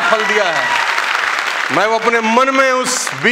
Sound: rounds of applause

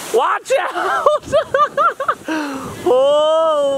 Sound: laughing

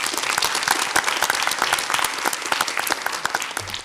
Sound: audience applauds

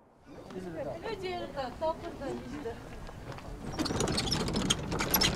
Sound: speaking Tibetan

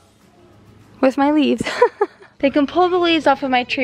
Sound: laughs

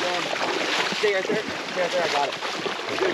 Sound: fish splashing

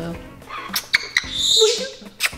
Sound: parrot chirping; lips smacking

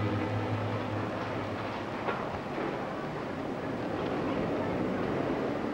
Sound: cars driving past

